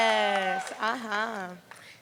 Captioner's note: applause